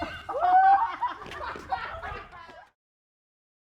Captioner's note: group laughs